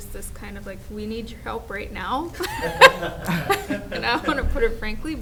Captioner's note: laughs